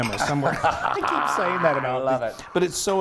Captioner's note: laughing